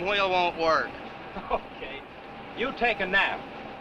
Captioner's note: laughs